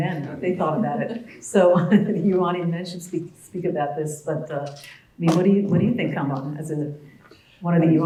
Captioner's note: laugh